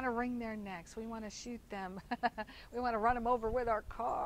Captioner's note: chuckles